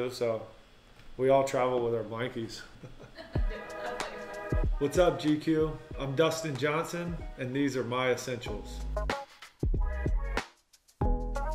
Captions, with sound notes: So we all travel with our blankies. [offscreen laughing] What's up GQ, I'm Dustin Johnson. And these are my essentials. [mellow music]